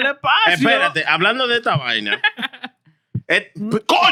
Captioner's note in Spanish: Hablando en idioma extranjero